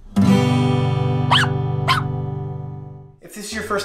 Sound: guitar chord strums; dog barks

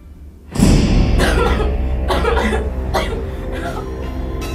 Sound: Lisa coughs

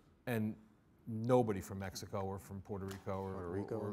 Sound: none

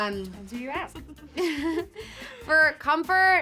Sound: slight laughter

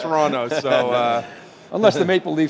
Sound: laughing

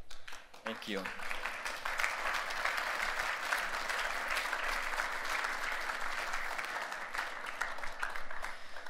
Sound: applause

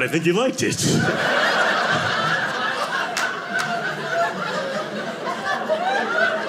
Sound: audience laughing

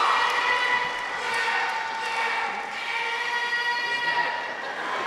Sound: audience applauds; people cheer; audience member shouts; audience laughs

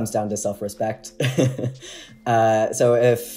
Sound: laughing

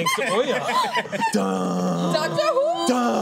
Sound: laughter

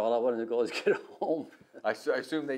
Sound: laughs

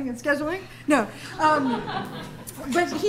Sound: laughter

